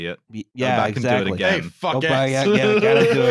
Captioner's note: laughs